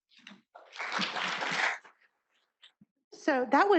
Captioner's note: audience applauding